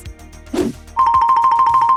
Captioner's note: interstitial whooshing